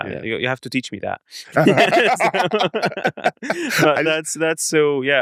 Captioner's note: laughs